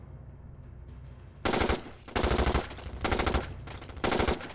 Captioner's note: gun firing